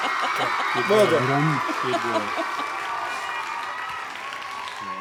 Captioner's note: applause